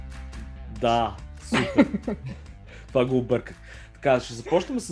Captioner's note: laughs